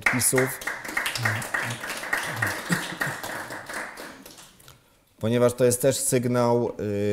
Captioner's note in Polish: Aplauz